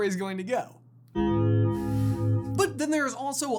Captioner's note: death bell of doom